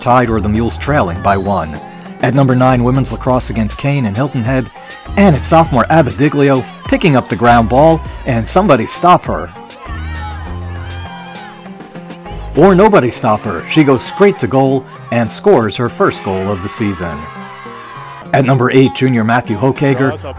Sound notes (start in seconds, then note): 9.4 mid-tempo instrumental music; 9.4 teammates cheer; 17.1 crowd and players cheer